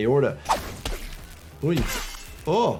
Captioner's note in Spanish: vidrio roto; golpe de arma